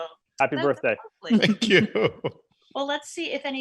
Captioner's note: chuckles